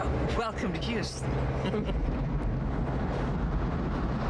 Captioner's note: laughs; thunder